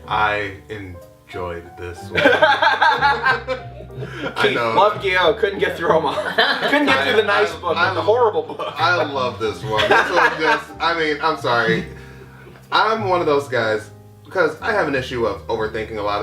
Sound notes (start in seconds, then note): 2.0 laughs; 9.1 laughs; 9.7 laughter